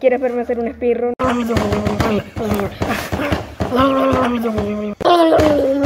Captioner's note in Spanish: golpea el teclado